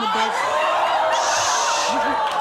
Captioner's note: audience cheers